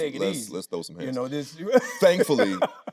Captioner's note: laughing